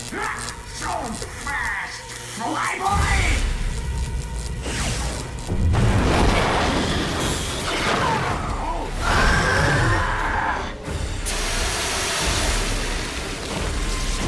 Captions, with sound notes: Not so fast, flyboy! (GRUNTING) (YELLING)